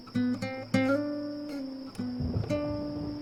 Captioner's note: thunder crashing